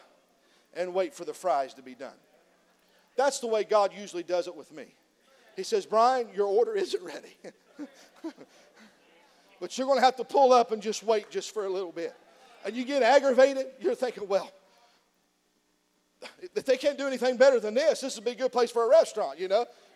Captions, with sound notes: YOU'RE GOING TO HAVE TO PULL UP AND WAIT FOR THE FRIES TO BE DONE." THAT'S THE WAY GOD USUALLY DOES IT WITH ME. HE SAYS, "BRIAN, YOUR ORDER ISN'T READY (LAUGHS). BUT YOU'RE GOING TO HAVE TO PULL UP AND JUST WAIT JUST FOR A LITTLE BIT." YOU GET AGGRAVATED. YOU'RE THINKING, "WELL, IF THEY CAN'T DO ANYTHING BETTER THAN